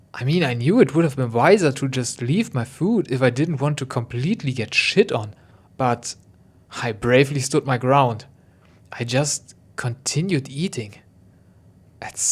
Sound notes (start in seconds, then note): none